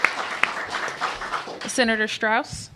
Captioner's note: applause